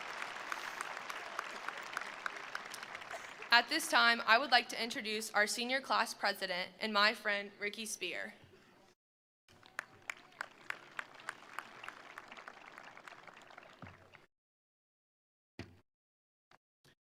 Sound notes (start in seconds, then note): 0.0 attendees applauding; 0.0 attendees cheering; 9.5 attendees applauding; 9.6 attendees cheering